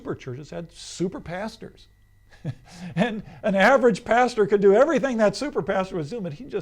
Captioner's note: laughs